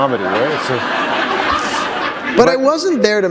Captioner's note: laughter